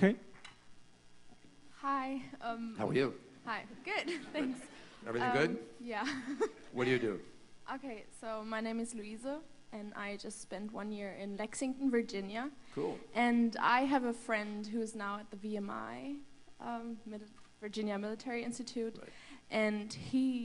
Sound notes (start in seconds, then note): 6.0 laughter